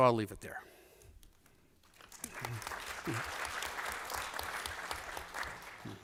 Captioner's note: applause